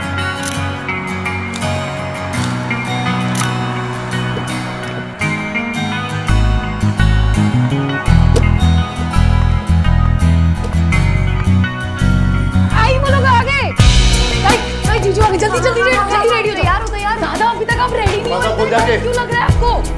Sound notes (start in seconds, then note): 0.3 Cameras clicking; 3.0 Car door opens; 8.1 Car door closes